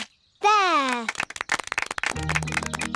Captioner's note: applause